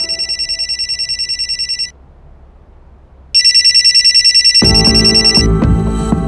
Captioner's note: Phone ringing